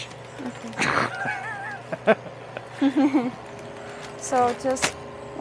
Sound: both laugh

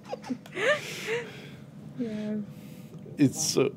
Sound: chuckles

